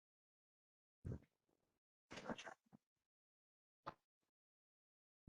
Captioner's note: pause